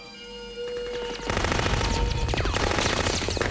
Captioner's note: gunfire